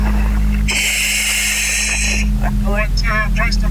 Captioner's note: oxygen pipe whirling